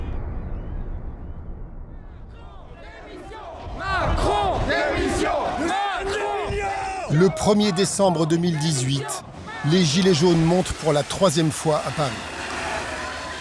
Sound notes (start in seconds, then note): 4.0 French spoken audio